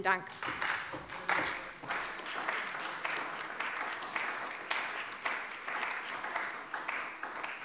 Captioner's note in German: Beifall bei der CDU und dem BÜNDNIS 90/DIE GRÜNEN